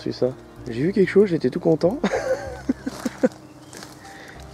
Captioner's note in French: rire